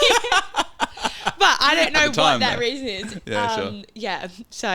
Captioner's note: laughing